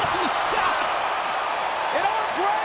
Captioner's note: audience cheering